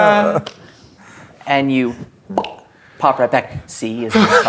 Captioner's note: pops